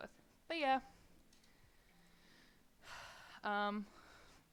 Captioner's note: a sigh... for some reason?